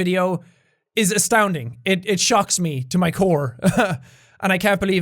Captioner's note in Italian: risata imbarazzata